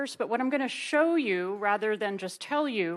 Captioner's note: none